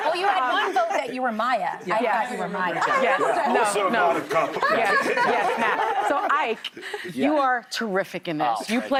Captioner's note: laughter